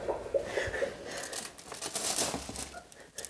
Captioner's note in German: Leises Schluchzen